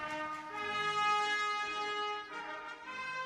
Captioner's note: cheers and applause